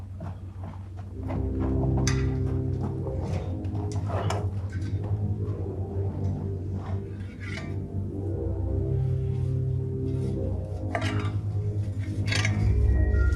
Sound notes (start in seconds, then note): 1.2 suspenseful music; 7.3 shovel scrapes